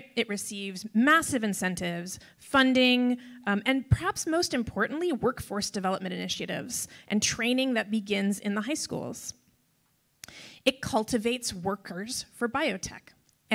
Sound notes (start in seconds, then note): none